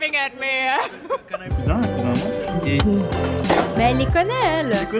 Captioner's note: speaking french